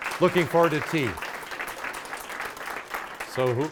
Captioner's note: audience applauding